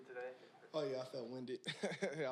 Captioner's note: chuckles